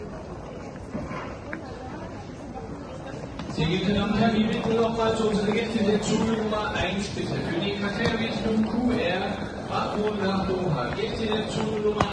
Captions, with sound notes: Gate C07 today (Announcement in German)